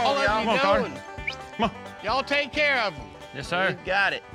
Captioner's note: whistles